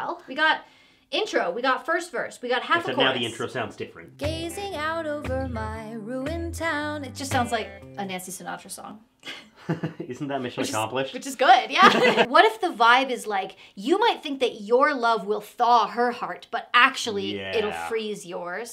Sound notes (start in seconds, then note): 9.6 laughing; 11.8 both laughing; 11.8 laughing